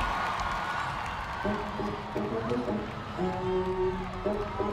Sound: crowd cheers

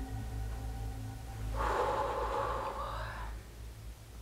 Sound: sighs

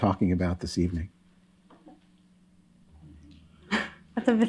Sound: laughs

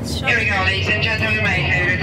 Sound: announcer On PA

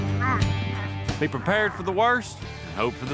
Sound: groaning

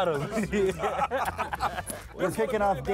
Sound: laughing

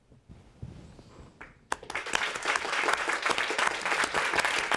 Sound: applause

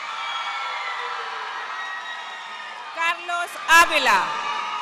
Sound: audience cheering and applauding

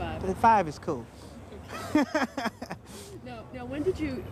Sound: laughs

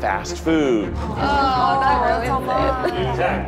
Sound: everyone groaning

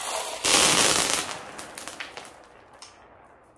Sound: marbles crashing onto floor

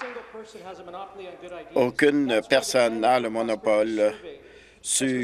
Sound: applause

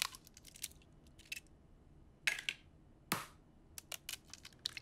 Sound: eggshells crackle

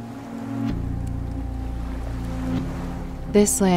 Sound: water rippling

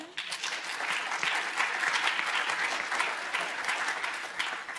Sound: audience applauding

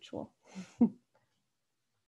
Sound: chuckles

